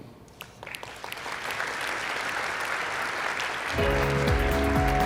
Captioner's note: crowd applauding; upbeat music